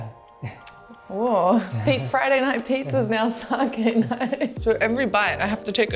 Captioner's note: laughs